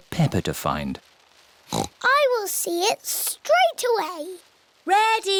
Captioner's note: oinks